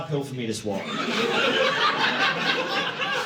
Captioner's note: audience laughing